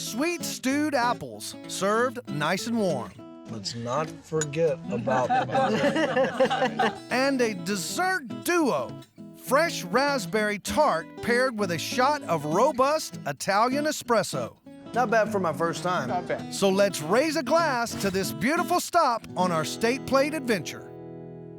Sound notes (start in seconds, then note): 4.9 laughter